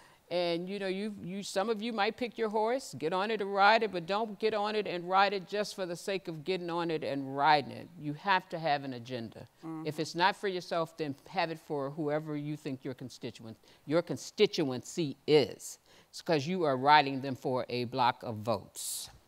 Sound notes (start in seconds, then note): none